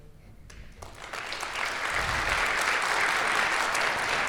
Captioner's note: applause